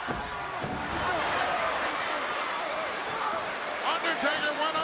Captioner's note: crowd clamors